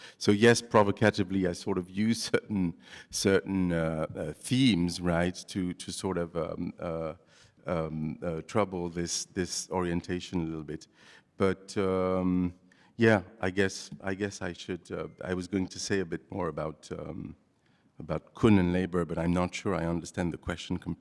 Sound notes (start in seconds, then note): 17.1 non-english